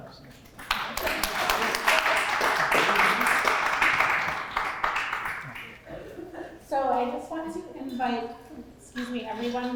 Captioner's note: applause